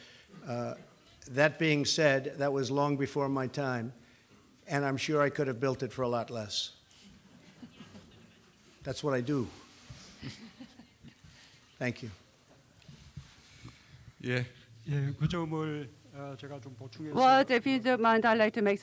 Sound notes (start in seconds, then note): 7.3 laughter